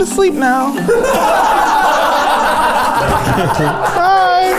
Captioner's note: everyone laughing